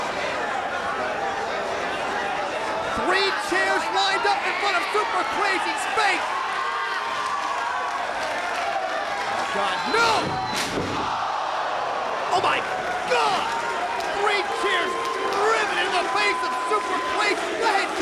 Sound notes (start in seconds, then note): 10.8 audience shouting